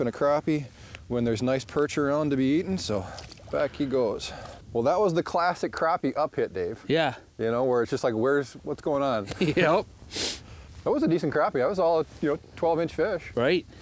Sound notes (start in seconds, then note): 9.2 laughs